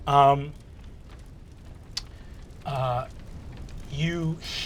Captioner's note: fire crackling